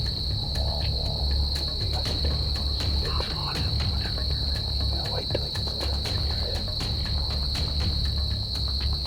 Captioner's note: whispering